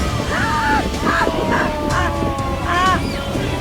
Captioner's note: gasping; intense music